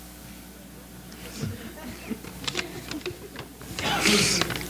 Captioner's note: audience laughs